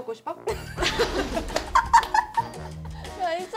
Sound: another laughter attack

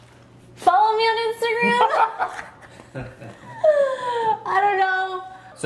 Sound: laughing

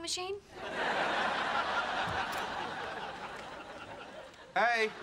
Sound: audience laughing

